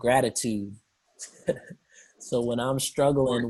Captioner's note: chuckles